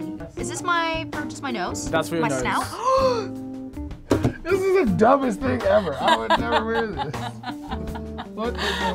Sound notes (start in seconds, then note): 2.7 gasps; 7.2 laughs